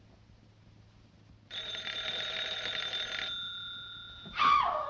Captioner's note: phone rings